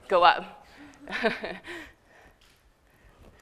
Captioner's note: laughter